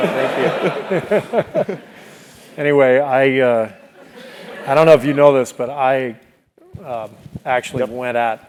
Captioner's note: laugh